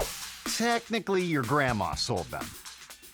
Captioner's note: air whoosh; upbeat music